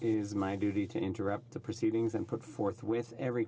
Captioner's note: speaking French